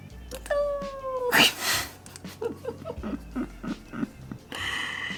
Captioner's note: makes sound effects